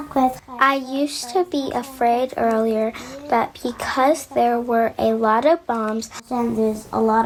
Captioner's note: through translator